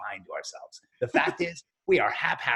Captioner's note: laughing